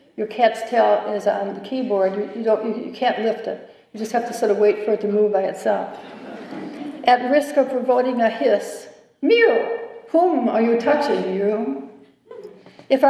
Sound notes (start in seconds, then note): 6.0 laughter